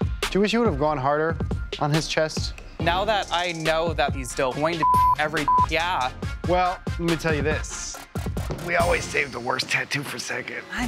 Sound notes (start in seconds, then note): 4.8 beep